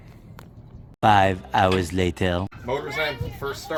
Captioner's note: Spongebob Voice